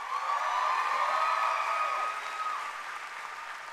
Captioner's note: cheering and applause